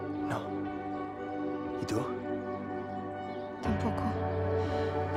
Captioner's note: speaks in foreign language